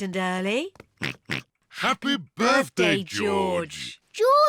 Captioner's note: oinks